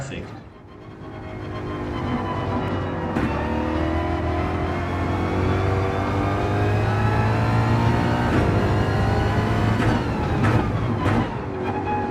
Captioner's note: engines revving, tyres grip, racing sounds